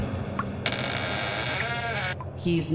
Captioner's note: coffin creaking